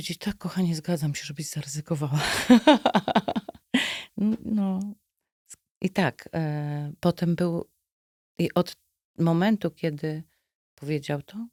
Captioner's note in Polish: śmiech